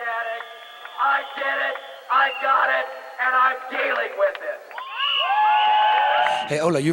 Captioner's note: people yelling